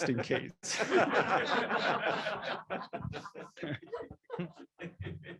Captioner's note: laughter